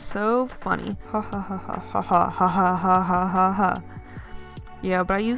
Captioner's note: sarcastic laughter